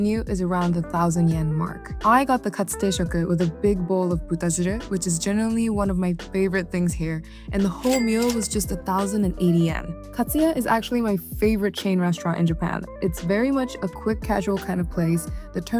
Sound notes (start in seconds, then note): 2.5 speaking Japanese; 7.8 chime ringing